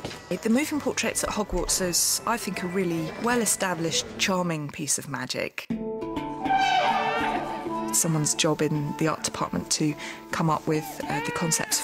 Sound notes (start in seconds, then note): 6.5 baby crying